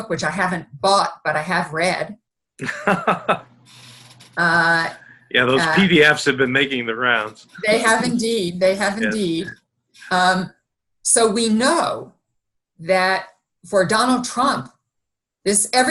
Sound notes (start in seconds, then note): 2.6 laughing